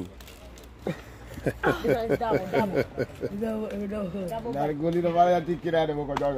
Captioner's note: Rire